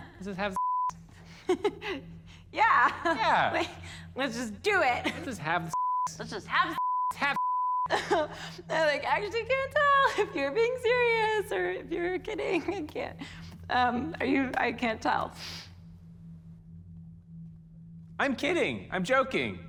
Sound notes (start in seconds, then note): 1.2 chuckles; 7.8 chuckles